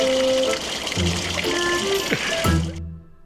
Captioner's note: slurping